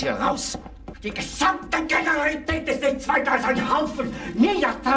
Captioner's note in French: parlant dans un anglais simple; criant dans un anglais simple